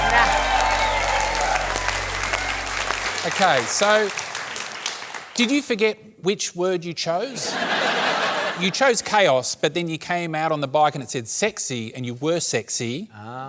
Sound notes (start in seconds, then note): 0.0 cheering, applause